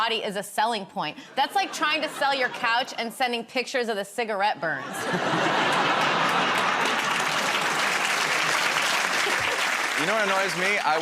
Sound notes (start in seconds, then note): 4.8 laughter; 5.6 applause